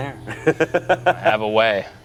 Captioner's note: laughs